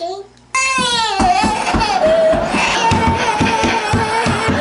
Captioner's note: crying and banging from feet; audience laughing loudly